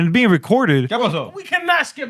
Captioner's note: speaking Spanish